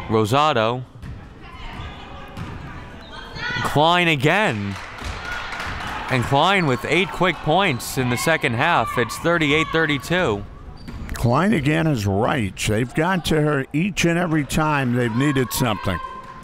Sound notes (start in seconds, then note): 4.3 crowd clapping